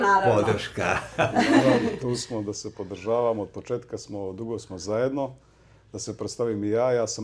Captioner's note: laughs